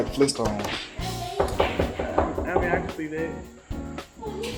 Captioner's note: table knocks